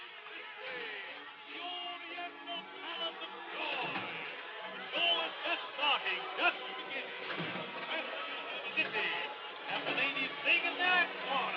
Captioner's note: Barker shouting